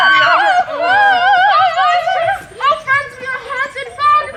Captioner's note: screaming; shrieking